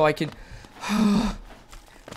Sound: sigh

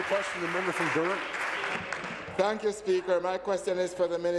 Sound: applause

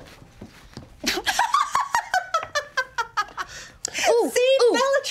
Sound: laughing

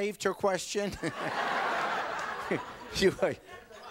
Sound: audience laughing

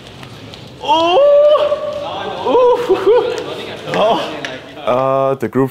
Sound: cries out

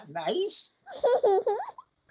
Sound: laughter

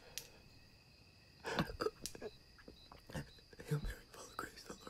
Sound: flashlight clicking

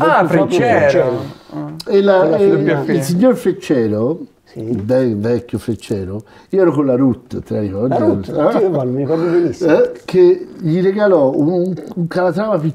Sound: laughts

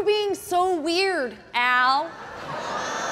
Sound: audience laughing

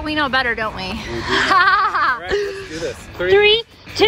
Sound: laughs loudly

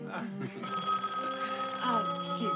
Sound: phone rings

